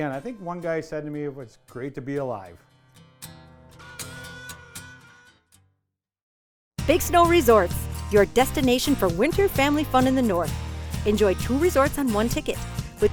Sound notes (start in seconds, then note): 6.9 voiceover